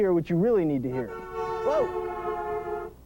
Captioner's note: car honking